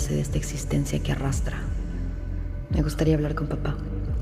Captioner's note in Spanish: none